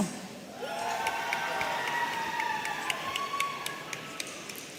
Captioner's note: audience cheering